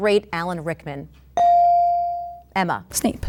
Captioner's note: ding